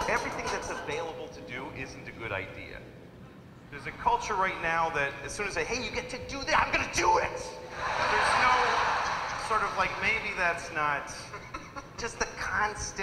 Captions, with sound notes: - Everything that's available to do isn't a good idea. There's a culture right now that as soon as they, hey, you get to do that, I'm gonna do it! (audience laughing) There's no, maybe that's not, just the constant,